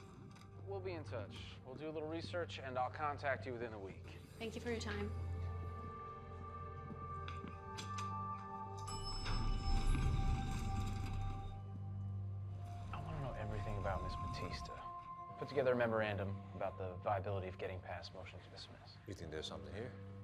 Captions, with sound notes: We'll be in touch. We'll do a little research and I'll contact you within a week. Thank you for your time. [elevator pings] I wanna know everything about Ms. Batista. Put together a memorandum about the viability of getting past motion to dismiss. You think there's something here?